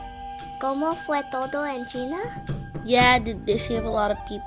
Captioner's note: Spanish